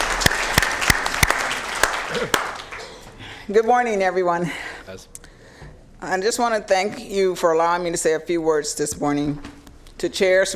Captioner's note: applause